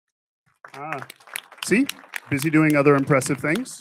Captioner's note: audience applauding